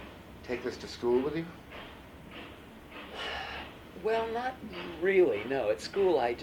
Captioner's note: sighs